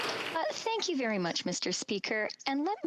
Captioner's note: some Applause